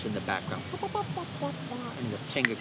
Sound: hums Melody

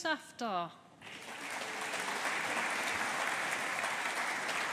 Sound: audience applauding

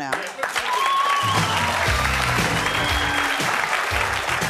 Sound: audience cheering

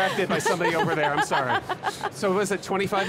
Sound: laughs

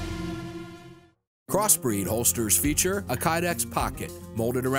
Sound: ominous overtones; voiceover

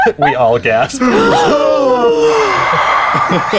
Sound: gasping

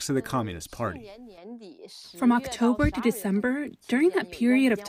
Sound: through translator

